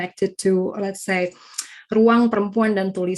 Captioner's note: speaking in foreign language